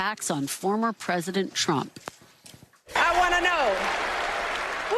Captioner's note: cheering and applause